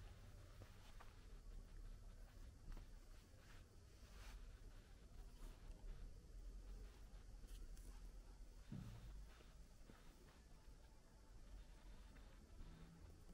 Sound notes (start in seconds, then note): 2.5 walking